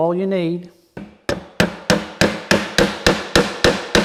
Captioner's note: nail hammering